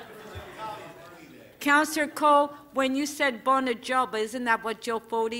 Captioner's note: laughter